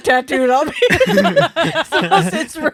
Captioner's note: laughing